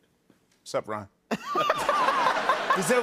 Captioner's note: laughter